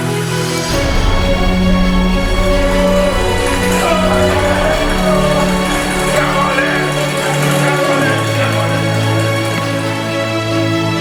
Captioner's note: music and applause